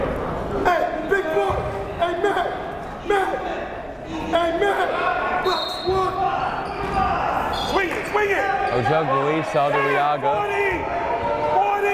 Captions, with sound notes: (yelling) (whistle blowing) Ojugbele leads Saldarriaga.